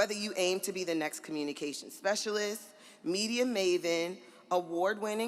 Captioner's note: none